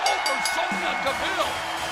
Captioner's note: bell ringing